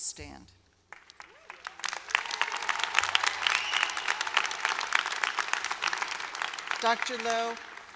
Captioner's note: applause